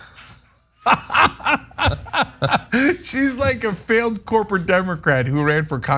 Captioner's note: laugh